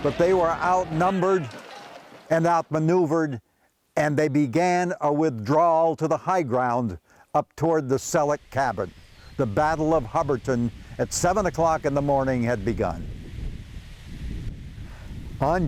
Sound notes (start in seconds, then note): 10.4 wind rustling